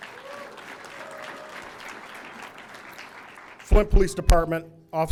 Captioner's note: audience cheering; audience applauding